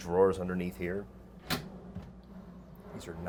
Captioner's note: drawer scrapes; drawer latch clicks